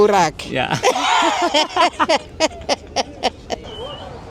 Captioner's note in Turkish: kahkaha